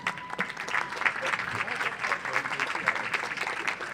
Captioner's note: audience applauds